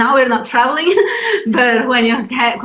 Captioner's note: laughs